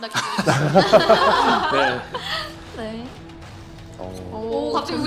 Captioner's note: laughter